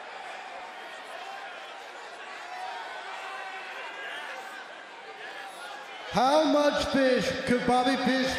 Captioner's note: crowd chatter